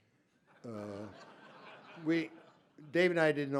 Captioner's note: laughter